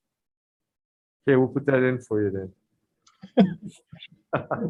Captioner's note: laughs